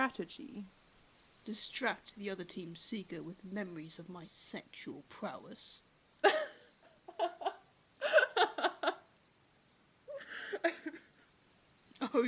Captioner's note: Regulus laughs